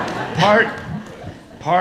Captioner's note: audience laughs